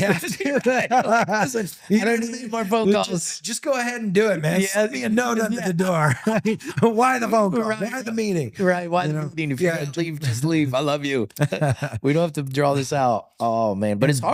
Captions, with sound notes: "Man, do we have to do that?" (both laughing) Just go ahead and do it, man. No, not the door. Why the phone call? They have the meaning. Right, why the meaning. Just leave, I love you. We don't have to draw this out.